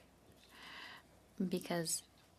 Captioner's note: speaking in French